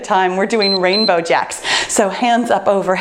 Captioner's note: timer beeps